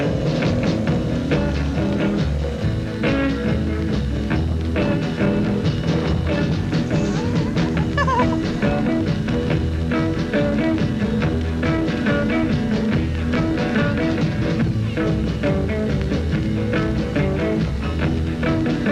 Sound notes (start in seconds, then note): 0.0 upbeat groovy music; 8.4 laughs